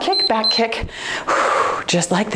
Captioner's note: timer beeps; exhales softly